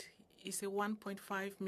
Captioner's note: speaking French